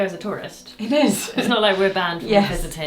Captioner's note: laughs